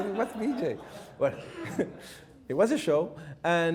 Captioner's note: chuckles